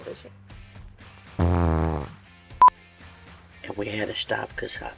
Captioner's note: farting